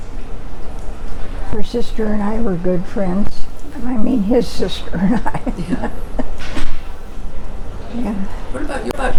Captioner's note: laughs